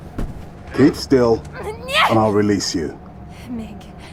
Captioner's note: struggles